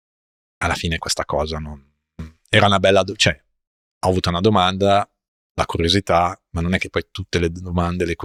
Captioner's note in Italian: schiarire la voce